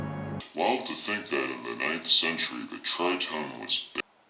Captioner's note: dissonant note; distorted voice